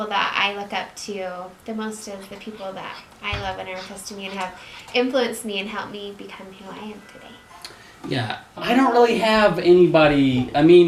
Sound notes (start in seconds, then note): none